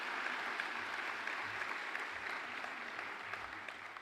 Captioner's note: applause